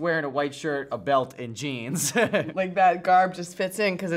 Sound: laughs

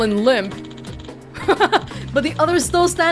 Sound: chuckles

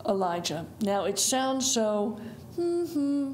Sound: hums

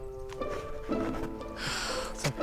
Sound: sighs

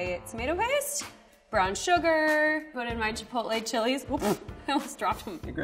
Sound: laughing

